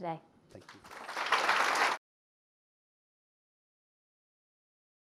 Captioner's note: audience applauds